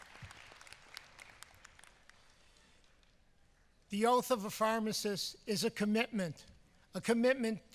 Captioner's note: applause